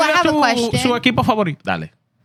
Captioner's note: speaking In Foreign Language